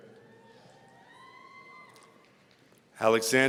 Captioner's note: audience cheering